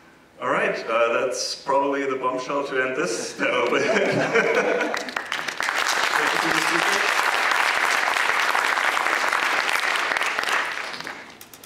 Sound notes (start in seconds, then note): 3.4 laugh; 5.4 applause; 7.4 applause